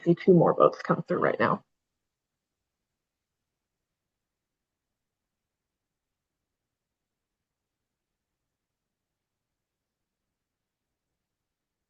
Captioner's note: pause